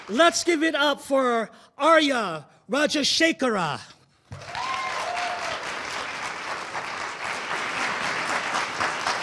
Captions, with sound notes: Let's give it up for Aarya Rajashekara. (audience cheering)